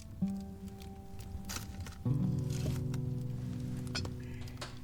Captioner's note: fire crackling